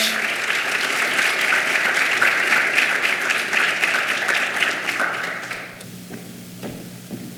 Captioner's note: clapping